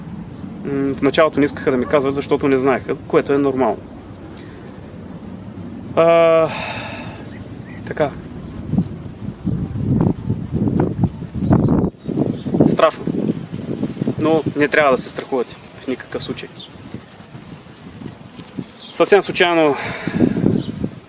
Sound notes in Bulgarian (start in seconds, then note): 6.3 Въздишка; 19.7 Въздишка